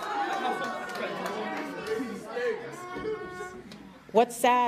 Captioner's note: audience jeering